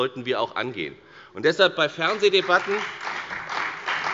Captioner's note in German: Beifall bei der FDP und bei Abgeordneten der CDU